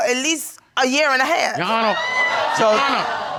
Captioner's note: audience laughing